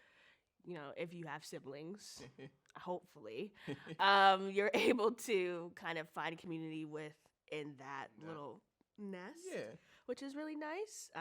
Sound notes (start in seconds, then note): 3.4 chuckles